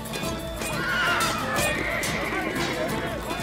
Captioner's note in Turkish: Kılıç sesleri; At kişneme sesi